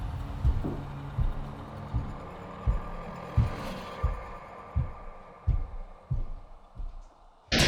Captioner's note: footsteps